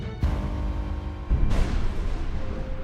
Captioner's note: thunderclap